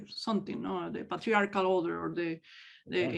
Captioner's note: speaks in native language